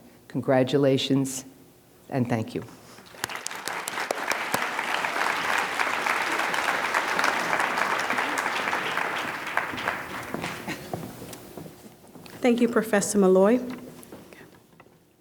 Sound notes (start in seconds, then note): 3.0 applause